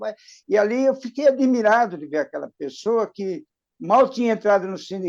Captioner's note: none